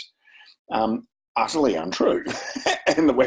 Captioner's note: chuckles